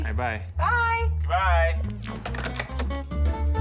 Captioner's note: receivers clatter